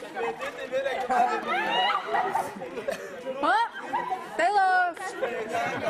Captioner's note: laughter, speaking in French, Kreyol